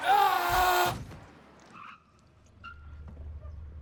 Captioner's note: man shouting